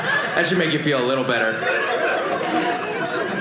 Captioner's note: audience laughing